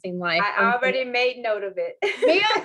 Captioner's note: laughter